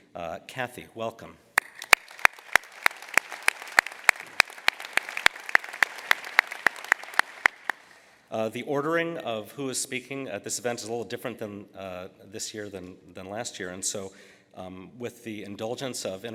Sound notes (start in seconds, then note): 1.5 applause